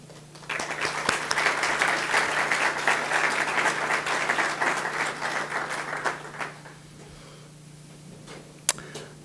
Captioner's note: audience applause